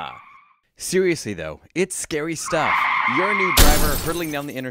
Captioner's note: sound of screeching tires; sound of collision